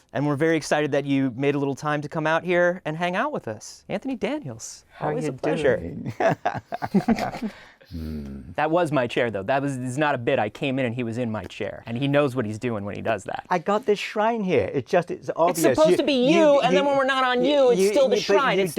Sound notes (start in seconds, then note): 6.0 laughter